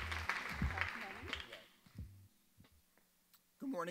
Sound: audience members chattering

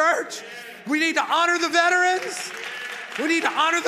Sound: congregation clapping

